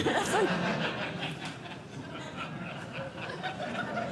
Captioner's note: laughter